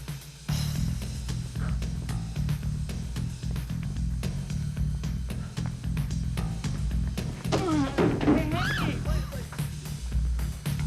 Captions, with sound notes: (man groaning) - Hey, wait! - Ah! - What the?